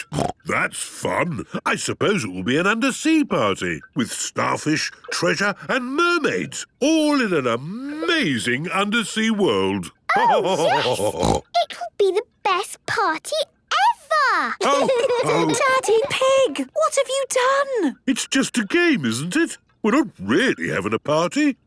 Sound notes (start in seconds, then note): 9.7 laughter and snorting; 14.6 laughter